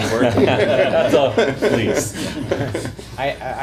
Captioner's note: laughter